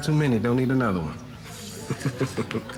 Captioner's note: chuckles